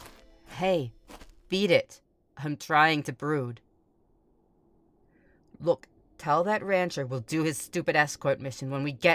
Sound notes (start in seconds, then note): 0.0 footsteps, music fades out